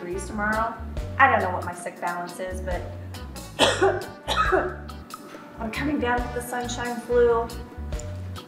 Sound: cough

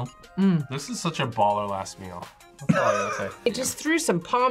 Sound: laughs

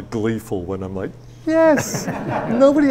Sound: audience laughs

